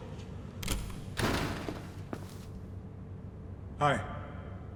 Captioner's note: door slamming; footsteps